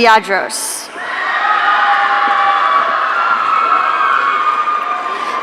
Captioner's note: audience cheering